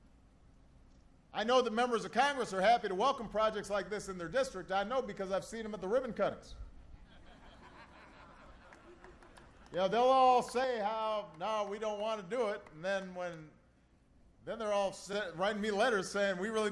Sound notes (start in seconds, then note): 6.9 laughter